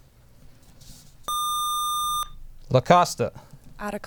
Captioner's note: buzzer